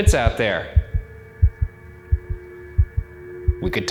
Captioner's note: heart beating